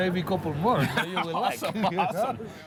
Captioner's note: laughter